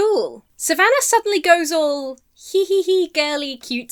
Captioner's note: giggles coquettishly